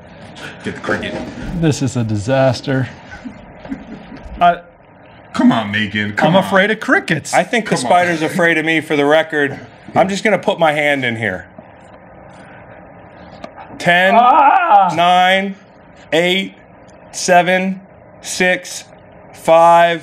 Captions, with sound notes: - This is a disaster. (laughs) - Come on, Macon, come on. - I'm afraid of crickets. - I think the spider's afraid of me, for the record. I'm just gonna put my hand in here. 10 (screams) nine, eight, seven, six, five, four, three, two, one.